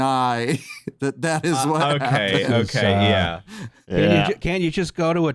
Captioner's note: laughing